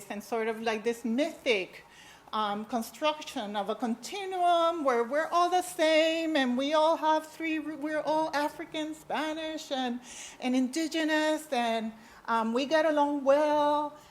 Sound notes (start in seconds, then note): none